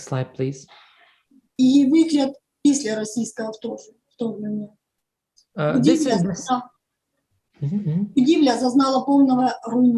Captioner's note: foreign Language